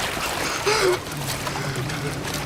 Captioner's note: gasps